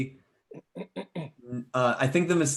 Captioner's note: clears throat